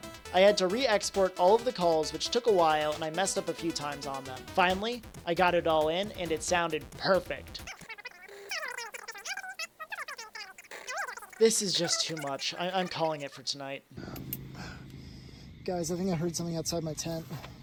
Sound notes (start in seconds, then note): 7.7 high pitched sound